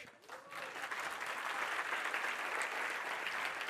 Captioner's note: applause